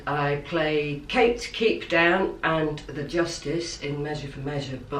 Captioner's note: none